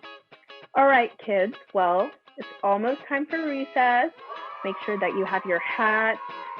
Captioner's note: children cheer